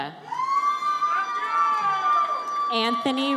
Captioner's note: audience cheers